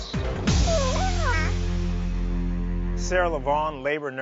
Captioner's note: baby coos